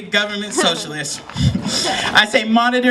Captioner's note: chuckle